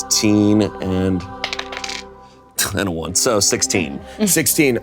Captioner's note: dice rolling